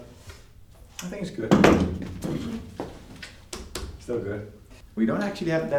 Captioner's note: wood clattering